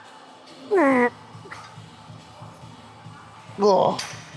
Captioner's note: grunts